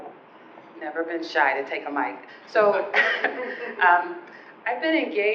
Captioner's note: laughing